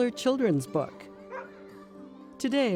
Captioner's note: dog barks